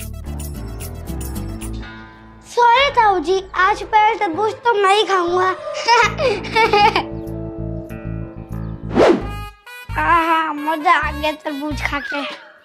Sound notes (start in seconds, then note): 5.3 laughing